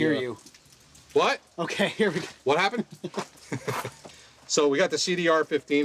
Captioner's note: laughs